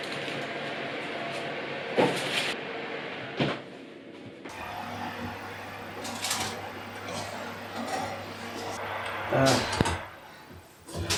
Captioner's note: oven roar